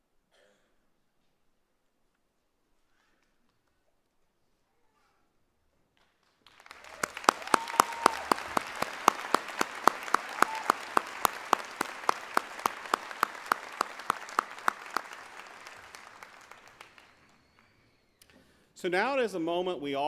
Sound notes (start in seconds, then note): 4.2 applause